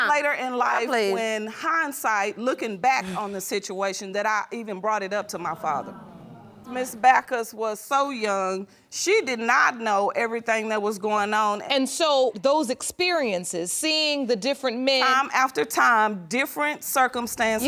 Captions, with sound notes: Later in life in hindsight, looking back on the situation that I even brought it up to my father. (AUDIENCE GROANING) Miss Baccus was so young, she did not know everything that was going on... And so those experiences seeing the different men... Time after time, different circumstances...